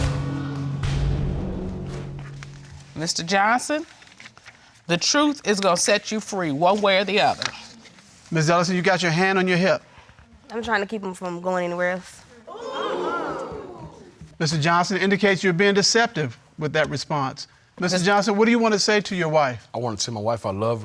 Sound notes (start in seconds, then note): 12.4 exclaiming